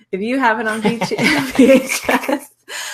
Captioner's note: both laugh